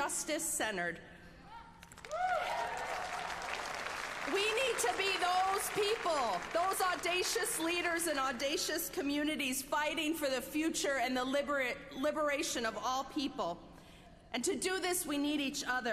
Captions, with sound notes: JUSTICE CENTERED. [APPLAUSE] WE NEED TO BE THOSE PEOPLE,